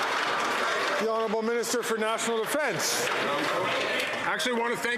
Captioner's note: some Applause